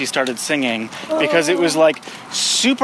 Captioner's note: groans